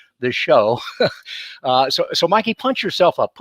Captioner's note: laughs